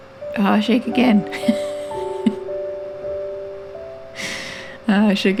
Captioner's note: laugh